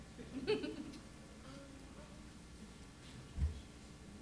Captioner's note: chuckling